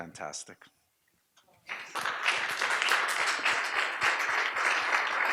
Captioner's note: audience applauds